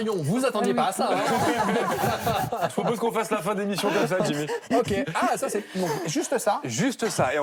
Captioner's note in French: rires